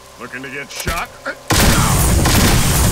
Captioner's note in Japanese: 発砲音